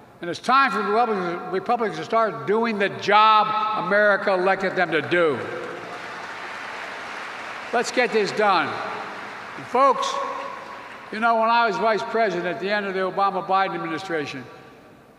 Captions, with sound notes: And it's time for Republicans to -- Republicans to start doing the job America elected them to do. (Applause.) Let's get this done. And, folks, you know, when I was vice president at the end of the Obama-Biden administration,